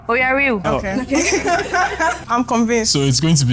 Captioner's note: laughs